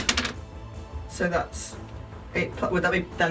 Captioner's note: none